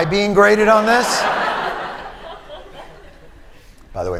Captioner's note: laughter